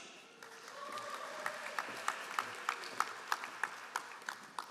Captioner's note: all applauding